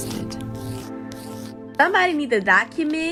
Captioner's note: quiet brushing sounds